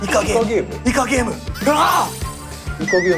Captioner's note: sound of getting a hunch